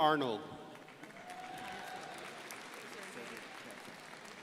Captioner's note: crowd applauding